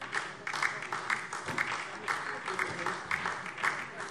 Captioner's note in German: Beifall DIE LINKE